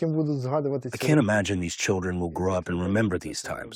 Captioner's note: through translator